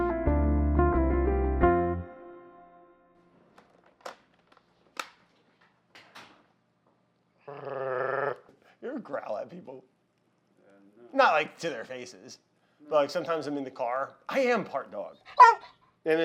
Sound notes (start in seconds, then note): 0.0 soft pleasant music; 7.4 growls